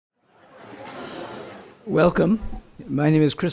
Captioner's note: audience murmuring